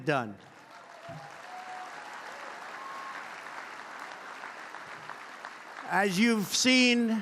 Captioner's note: applause